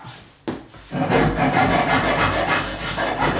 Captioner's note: grinding noises